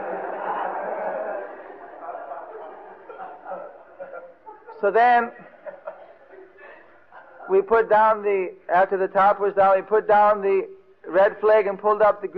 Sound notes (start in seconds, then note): 2.5 devotees laughing